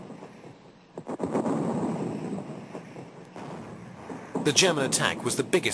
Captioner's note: heavy artillery booming